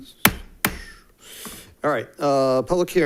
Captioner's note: gavel thuds